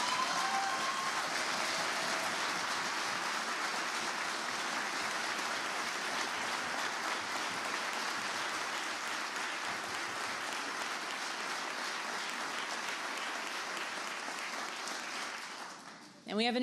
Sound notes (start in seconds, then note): 7.9 applause